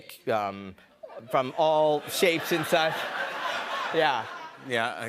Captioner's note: laughter